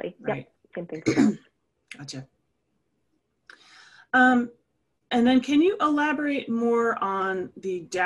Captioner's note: cough